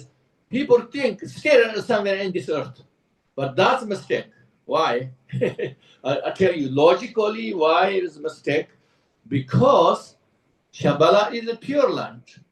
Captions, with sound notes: people think still somewhere on this Earth. But that's a mistake. Why? [Laughs] I tell you, logically why is mistake? Because Shambhala is a pure land.